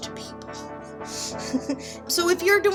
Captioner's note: giggle